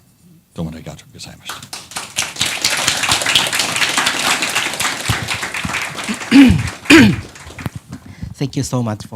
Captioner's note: applause